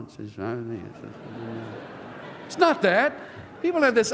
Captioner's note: laughter